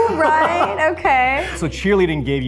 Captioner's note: laughs